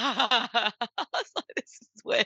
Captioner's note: laughs